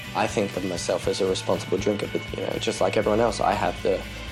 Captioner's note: none